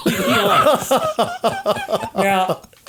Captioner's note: all laughing